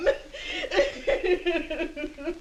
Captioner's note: sobbing